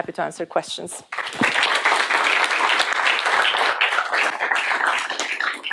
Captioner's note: applause